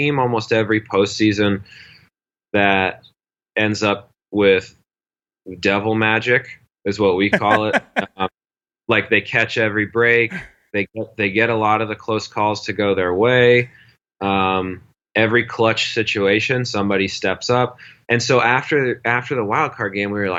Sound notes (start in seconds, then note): 7.2 laughs